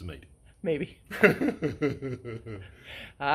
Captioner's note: laughs